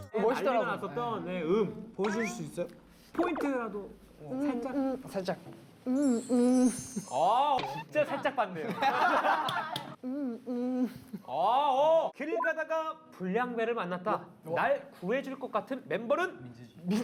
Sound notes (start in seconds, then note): 5.8 mmmh